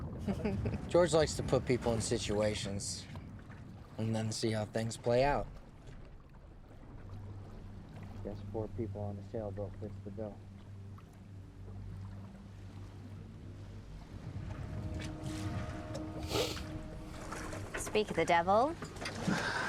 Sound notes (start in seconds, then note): 0.2 Cecile chuckles; 14.3 ominous music; 16.2 George sniffles